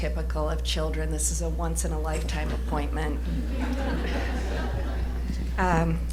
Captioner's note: laughter